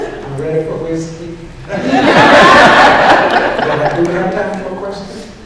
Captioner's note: laughter